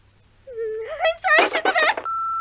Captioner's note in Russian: мхмхм